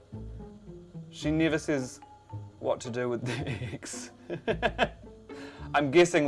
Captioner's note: laughs